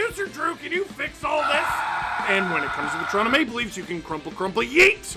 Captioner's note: screaming